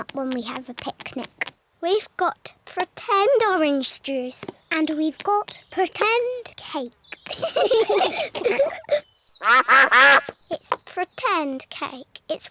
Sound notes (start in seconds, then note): 7.2 all giggle; 9.4 quacking